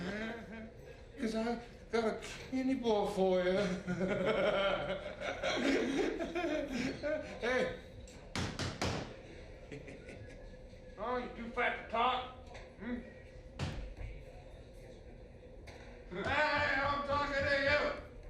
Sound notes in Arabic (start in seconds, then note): 3.6 ضحكات; 8.3 طرق